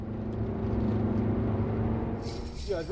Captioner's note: car engine accelerating